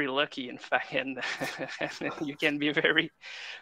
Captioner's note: laughter